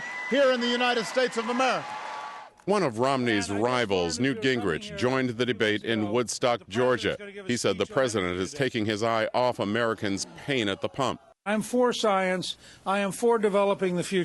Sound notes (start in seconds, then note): 0.0 cheering and applause